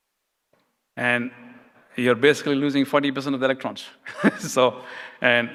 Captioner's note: laughs